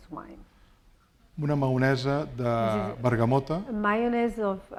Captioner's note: speaking spanish